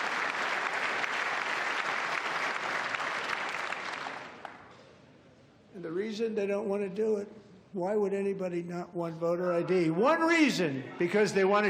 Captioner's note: cheers and applause